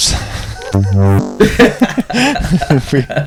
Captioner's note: laughter